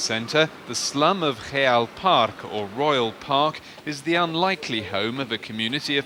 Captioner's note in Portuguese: Som de tráfego em grande avenida